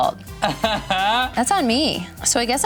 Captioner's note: laughs